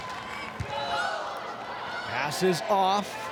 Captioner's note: ball thumping